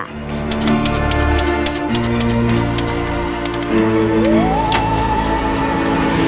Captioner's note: typewriter clicks; tense music